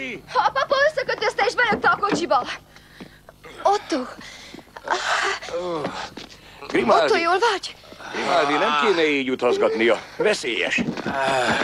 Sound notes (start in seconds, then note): 5.5 grunting